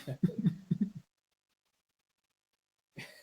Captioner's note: chuckling